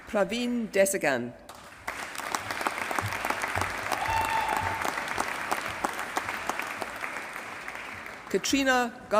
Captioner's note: applause